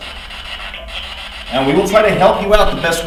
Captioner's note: static buzzing